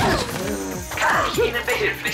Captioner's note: crackling